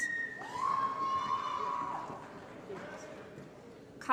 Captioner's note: applause & Cheering